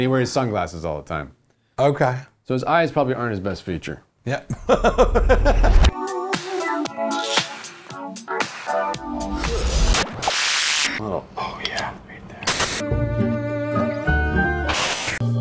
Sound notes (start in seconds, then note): 4.5 laughs; 9.4 static